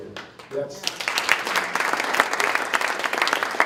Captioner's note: applause